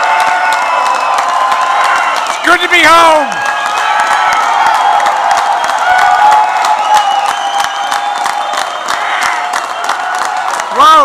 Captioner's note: applause